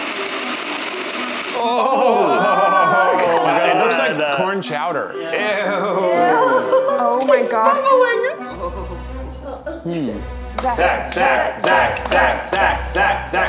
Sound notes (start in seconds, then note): 1.5 cast groans